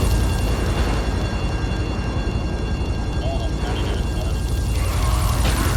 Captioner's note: sirens wailing